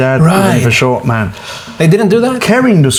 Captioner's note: jabbering